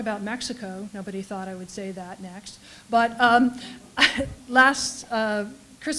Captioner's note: laugh